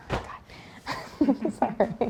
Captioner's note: laugh